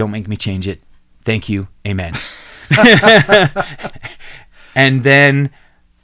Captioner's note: both laugh